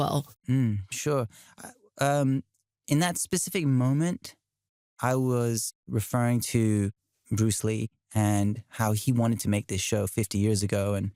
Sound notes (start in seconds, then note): none